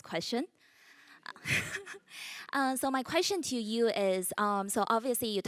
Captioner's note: laugh